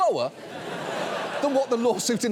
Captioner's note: audience laughing